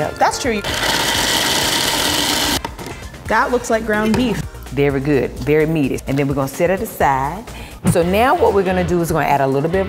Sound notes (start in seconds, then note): 0.6 food processor whirring